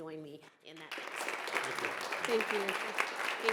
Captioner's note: and audience applauding